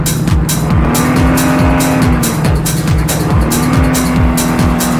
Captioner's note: engines revving